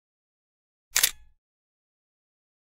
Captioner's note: camera shutter clicks